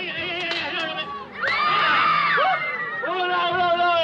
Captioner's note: screaming; speaking French